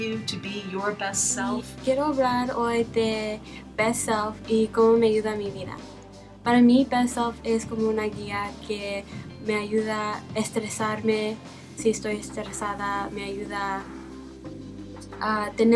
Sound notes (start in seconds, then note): 6.3 speaking spanish